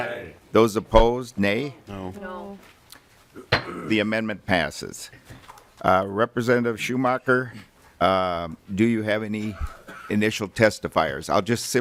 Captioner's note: chorus of ayes